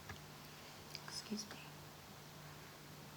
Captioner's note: quietly